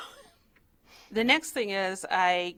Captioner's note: chuckles